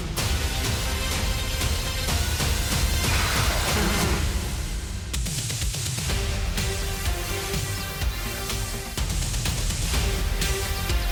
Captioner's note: buzzing